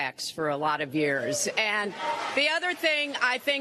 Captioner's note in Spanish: aplausos